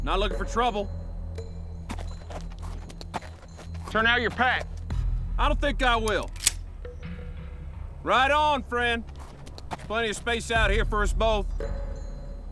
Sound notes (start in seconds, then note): 6.0 cocks rifle